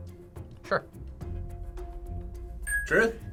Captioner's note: ding